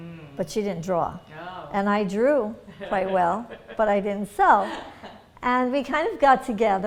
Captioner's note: laughter